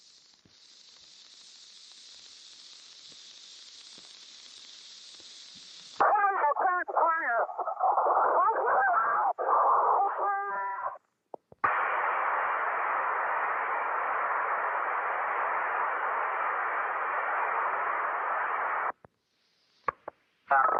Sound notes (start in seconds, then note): 0.0 audio cutting out; 0.2 static crackling; 8.2 screaming; 11.2 static popping on radio; 18.7 static ends